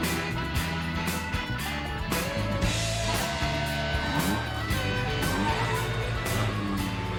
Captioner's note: Motor acelerando